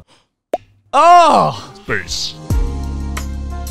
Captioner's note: laughs; pops; calm music